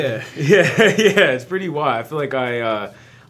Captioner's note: laughs